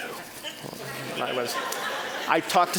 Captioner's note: audience laughing